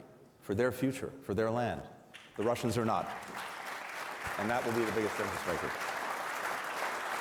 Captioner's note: applause